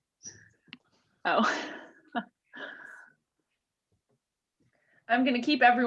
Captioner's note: laughing